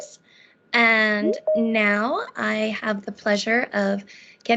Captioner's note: beeping